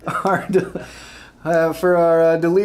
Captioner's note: laughing